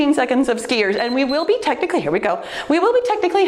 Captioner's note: timer beeps